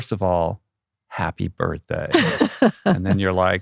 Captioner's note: laughs